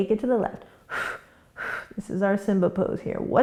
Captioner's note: quick breaths